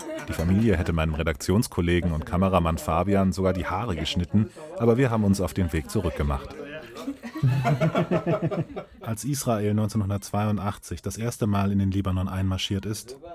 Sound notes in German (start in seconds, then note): 6.7 Lachen